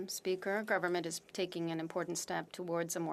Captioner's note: speaking French